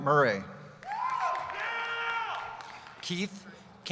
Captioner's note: cheering